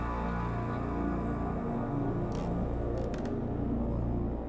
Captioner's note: floor creaking